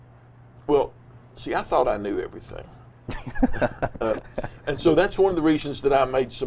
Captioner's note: laughs